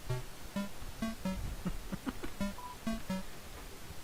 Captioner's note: laughing